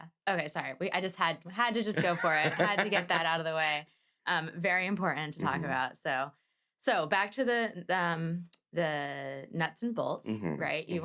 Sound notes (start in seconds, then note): 2.0 laughs